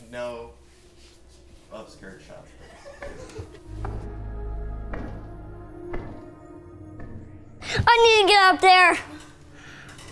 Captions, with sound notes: (footsteps) - I need to get up there!